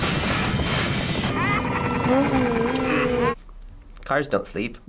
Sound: car 2 laughing

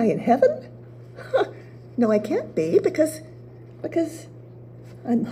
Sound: chuckle

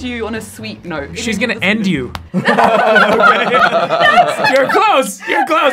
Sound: all laughing

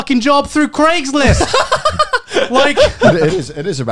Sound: laughing

